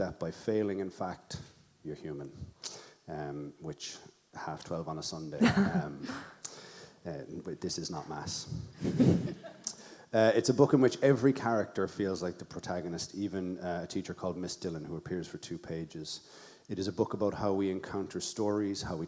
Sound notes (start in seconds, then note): 5.4 laughs; 8.8 audience member laughs